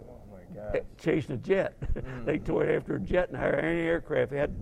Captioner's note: laugh